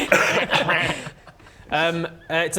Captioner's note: baa